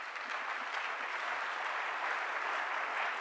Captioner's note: applause